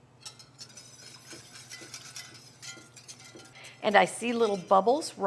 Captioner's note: hand whisk mixing